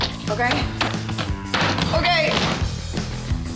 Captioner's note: pounding sound